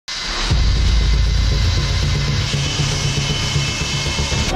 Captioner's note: aeroplane engine roaring